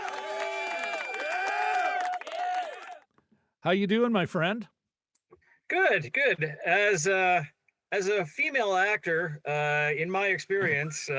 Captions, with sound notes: (audience cheering) How you doing my friend? Good, good. As a female actor, in my experience,